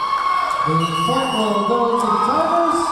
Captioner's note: cheering; clapping; cheering